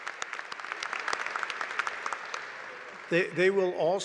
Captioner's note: applause